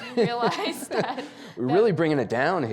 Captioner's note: Anderson and Mary laughing